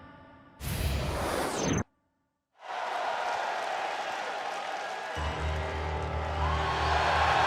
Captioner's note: crowd cheering